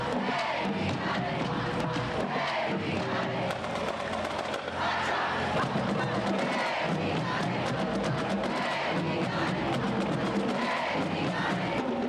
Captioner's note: chanting